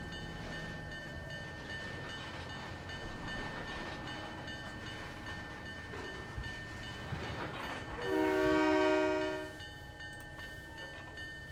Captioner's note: train whistle